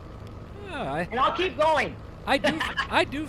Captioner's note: laughs